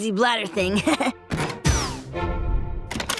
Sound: chuckles

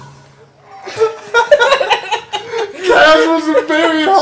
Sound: laugh

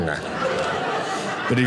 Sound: audience laughing

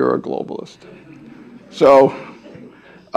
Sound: audience chuckling

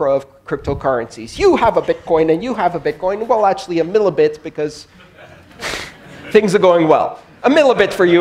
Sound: laugther

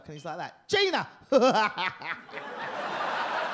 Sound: laughs

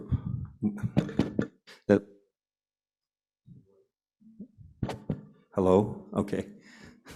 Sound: mic feedback

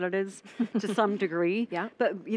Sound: laughing

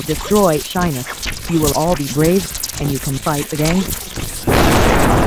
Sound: lightning sparks; thunderstorm; lightning sparks

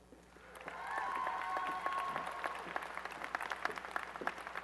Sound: applause and cheering

